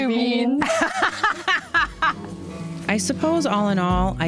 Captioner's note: loudly laughing